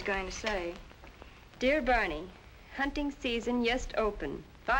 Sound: Swedish accent

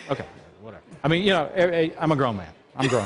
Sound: laughter

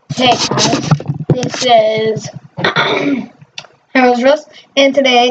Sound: clear throat

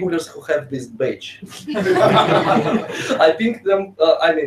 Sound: laughing

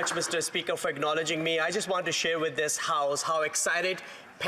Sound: applause

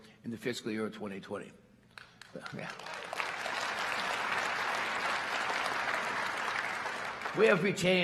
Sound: applause

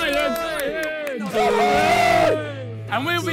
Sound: players cheer

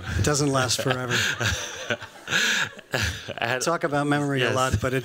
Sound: laughter

